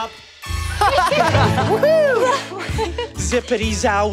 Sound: giggles

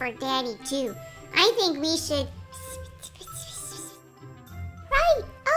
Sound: whisper

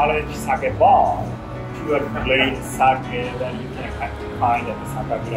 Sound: chuckles

